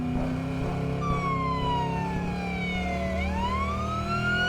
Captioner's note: police siren